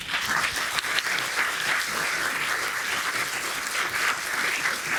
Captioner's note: audience applauding